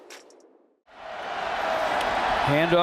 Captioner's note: crowd cheering